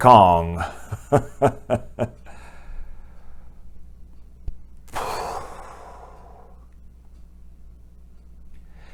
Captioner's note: laugh; breath